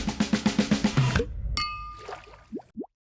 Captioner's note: glasses clink